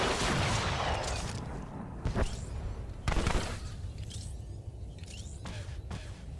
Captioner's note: explosion